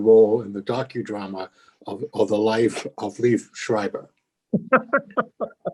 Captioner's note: laughs